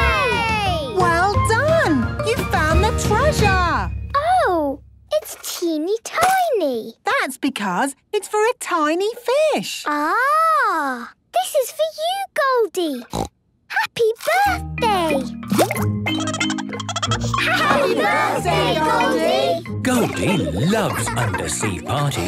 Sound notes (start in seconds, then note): 13.1 snorting; 16.1 Goldie giggling